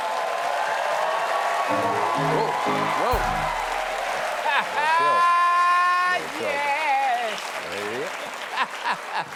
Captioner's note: cheers and applause; piano riff